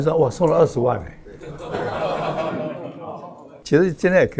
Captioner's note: laughs